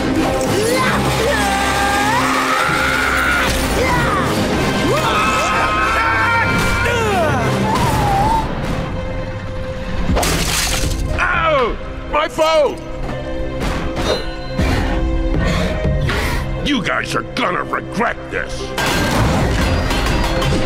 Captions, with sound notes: [grunting] [grunting] [shattering] Oh! My phone! You guys are gonna regret this.